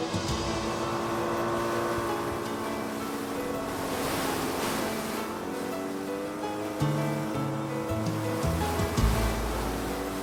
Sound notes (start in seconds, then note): 0.0 boat engine